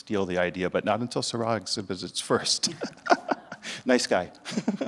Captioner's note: laughs